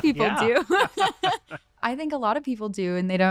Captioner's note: laughter